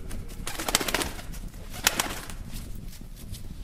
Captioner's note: wings flapping